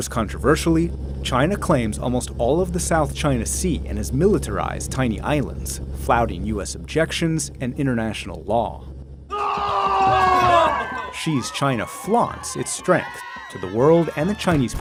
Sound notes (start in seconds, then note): 9.3 roaring